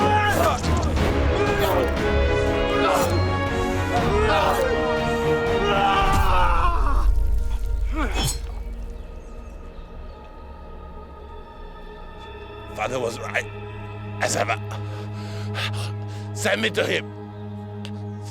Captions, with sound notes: (both moaning) (dramatic music) (both moaning) (dramatic music) - Father was right as ever. Send me to him. (gentle music)